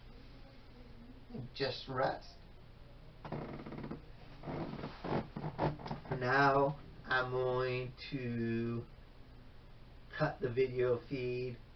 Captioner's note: scrunching of mattress